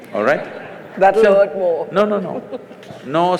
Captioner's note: laughter; laughs